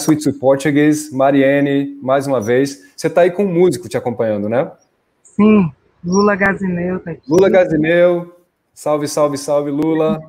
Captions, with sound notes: Let's switch to Portuguese. [speaking in Portuguese]